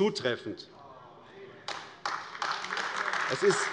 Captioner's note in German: Beifall AfD